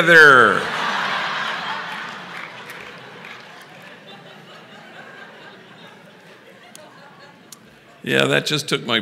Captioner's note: laughter